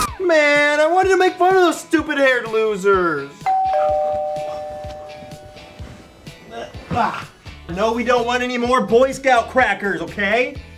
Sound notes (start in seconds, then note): 0.0 more shrieking; 3.4 bell rings